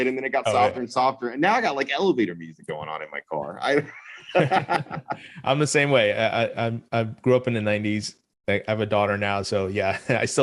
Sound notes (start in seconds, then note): 3.6 laughs